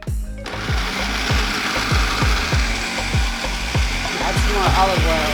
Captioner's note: machine whirring